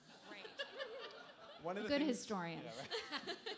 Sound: laughter

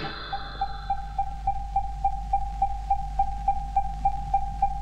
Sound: device Beeping

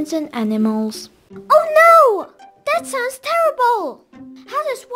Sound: surprised

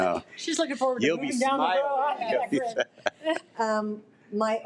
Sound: laughs

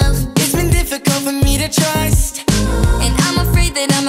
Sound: ooh

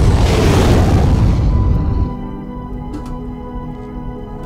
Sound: ship engine

